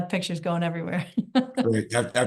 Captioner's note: laughs